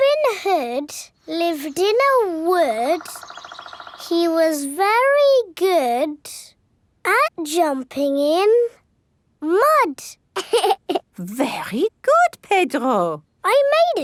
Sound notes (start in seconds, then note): 10.3 laughs